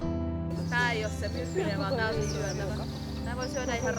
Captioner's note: speaking Finnish